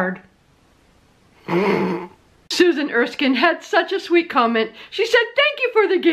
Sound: stifled giggle

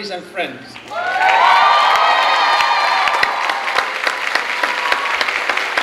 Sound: clapping and cheering

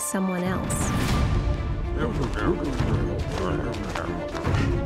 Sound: ominous music; is grunting; X panting

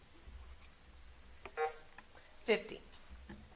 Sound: buzzer sounding

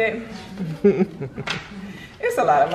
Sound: mom chuckles

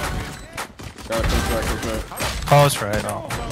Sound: guns firing

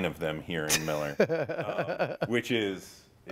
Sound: chuckling

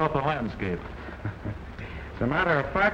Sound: chuckling

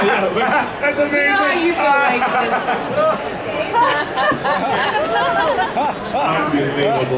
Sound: laughing

